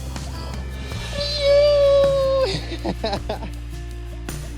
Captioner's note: family cheers